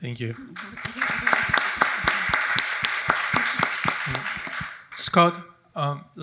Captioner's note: audience applauding